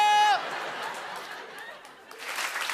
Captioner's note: laughter